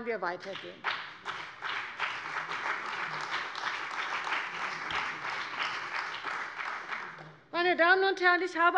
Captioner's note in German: Beifall bei der CDU und dem BÜNDNIS 90/DIE GRÜNEN